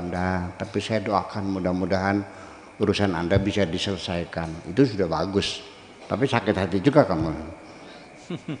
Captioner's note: laughs